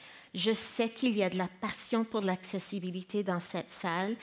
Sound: speaking in French

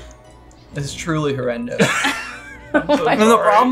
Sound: laughing

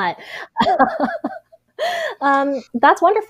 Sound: laughs

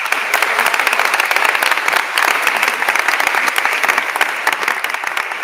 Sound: attendees applauding

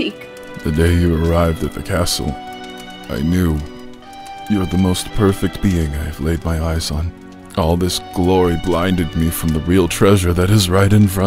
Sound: vomit x3

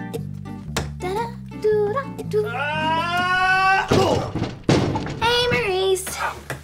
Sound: calm music; Dot humming; yelling

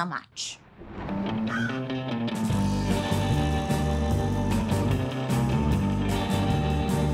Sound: crow caws; upbeat music

